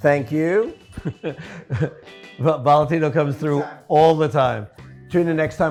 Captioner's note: laughs